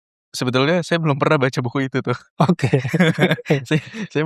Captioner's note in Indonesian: tertawa